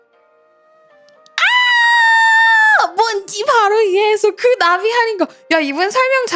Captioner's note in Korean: 비명